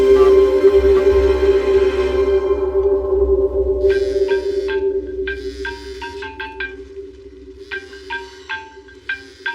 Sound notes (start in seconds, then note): 4.1 cell phone e buzzes